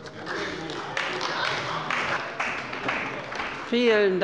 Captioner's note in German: Beifall bei der CDU